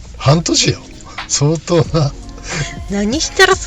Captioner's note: laughs